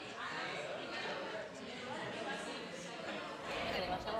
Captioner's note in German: Stimmen